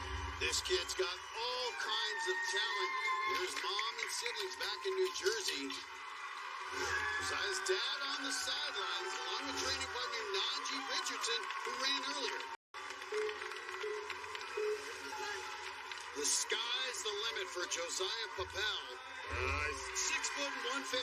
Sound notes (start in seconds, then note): 12.6 countdown clock beeping